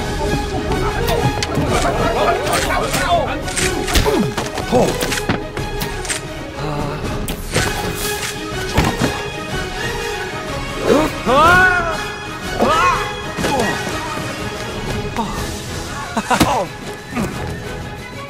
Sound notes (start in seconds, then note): 12.3 yelling; 14.7 dramatic music; 15.9 chuckles; 18.1 dramatic music